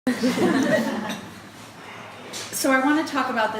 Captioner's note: audience laughing